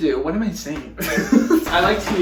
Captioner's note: laughing